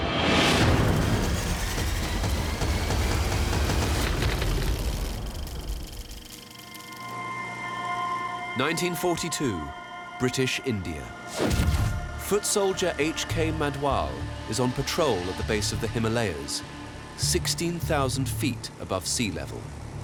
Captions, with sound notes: (dramatic music) (keys clicking) (film reel whirring) 1942, British India. Foot soldier H.K. Madhwal is on patrol at the base of the Himalayas, 16,000 feet above sea level.